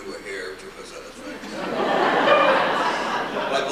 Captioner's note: laughter